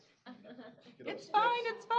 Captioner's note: laughter